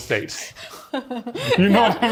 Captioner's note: laughs